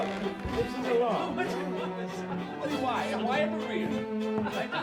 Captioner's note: group chattering